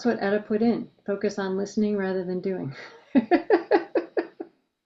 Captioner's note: laughs